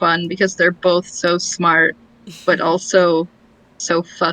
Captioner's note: laughs